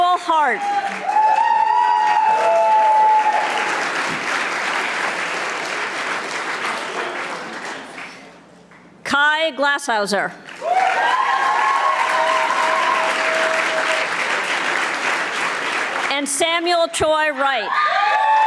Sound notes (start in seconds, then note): 0.8 audience applauding; 10.4 audience applauding